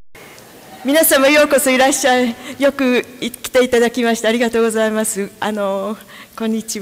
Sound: speaking japanese

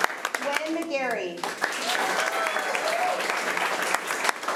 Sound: applause

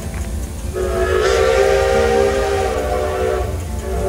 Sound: whistle blowing

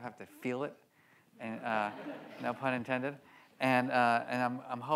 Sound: audience laughs

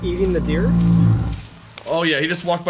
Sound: Bigfoot Growls

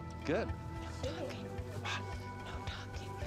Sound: whispers

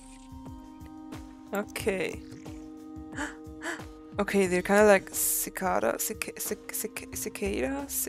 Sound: gasps, gasps

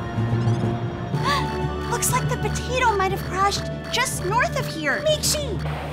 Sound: gasp

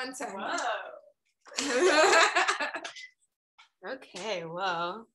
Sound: laughing

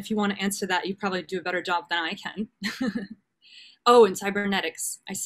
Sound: chuckles

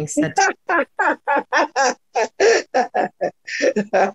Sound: laughs loudly

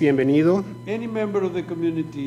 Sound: speaking foreign language

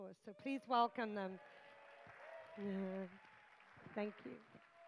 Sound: applause

